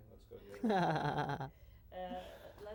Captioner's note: laughs